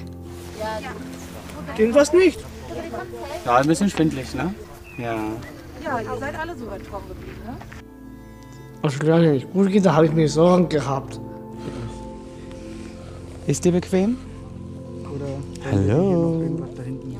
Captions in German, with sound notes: Stimmt was nicht? Ein bisschen schwindelig. Ja ... (Stimmengewirr) Als es Giuliana nicht gut ging, da habe ich mir Sorgen gemacht. (Bewegte Musik) Ist dir bequem? Hallooo.